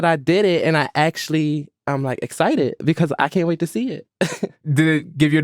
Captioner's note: laughs